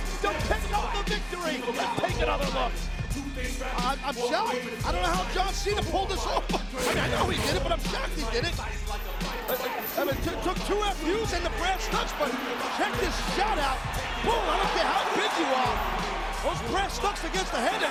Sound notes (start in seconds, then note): 6.7 graphics whooshing; 6.8 laughs; 8.8 chain jangling